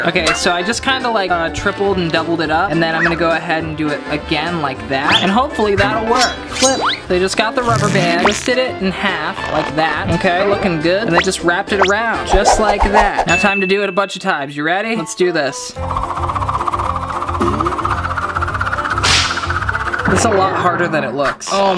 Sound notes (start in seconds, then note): 15.8 fast music; 16.0 whirring